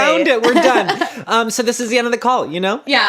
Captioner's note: laughs